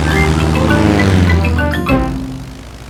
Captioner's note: plane engine revving